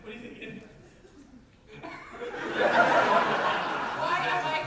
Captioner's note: audience laugher